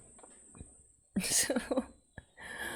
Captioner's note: laughs